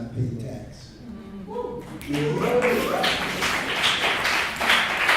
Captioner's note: clapping